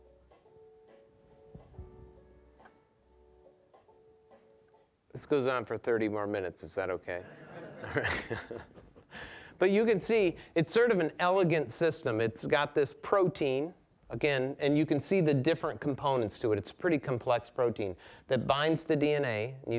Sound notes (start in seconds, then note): 7.2 audience laughing